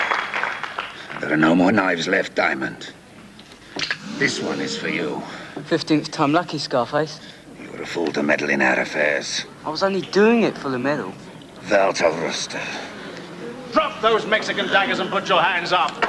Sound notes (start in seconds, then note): 11.7 speaks in Dutch